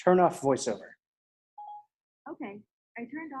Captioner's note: ipad beeps